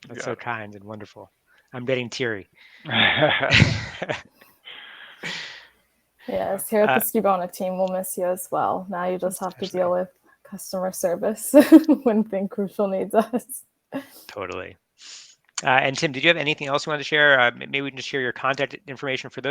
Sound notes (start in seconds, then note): 2.8 group laughs; 11.4 laughs